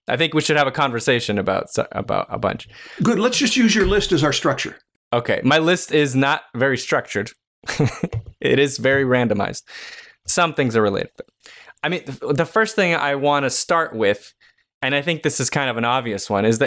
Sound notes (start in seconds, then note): 7.7 chuckles